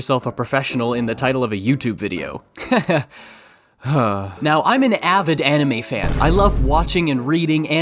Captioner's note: sigh